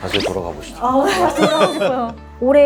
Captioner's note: laugh